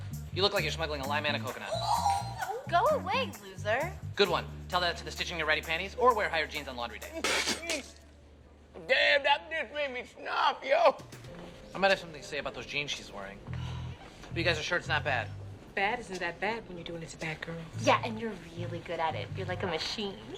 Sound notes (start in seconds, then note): 7.2 chang spits out milk